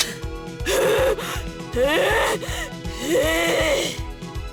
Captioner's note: maniacal huffing